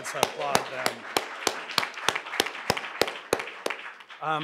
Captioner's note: applause